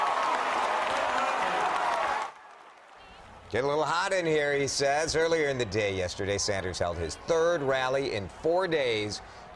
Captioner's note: cheering and applause